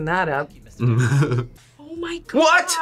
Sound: chuckles

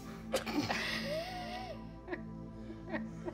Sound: all giggling

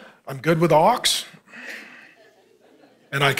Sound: congregation laughing

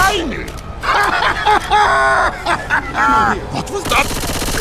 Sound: maniacal laughter

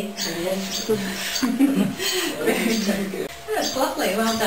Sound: laughter

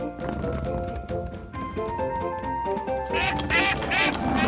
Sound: ducks quacking

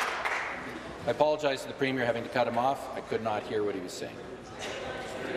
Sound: applause

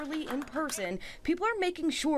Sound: applause

